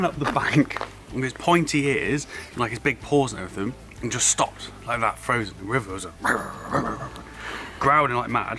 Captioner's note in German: knurrende Geräusche